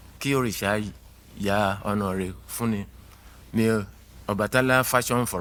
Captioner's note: speaking in foreign language